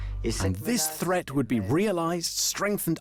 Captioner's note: voiceover